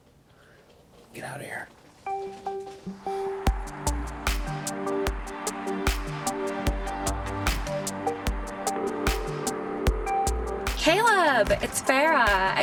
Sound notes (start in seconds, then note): 2.3 moody synth music; 8.9 phone rings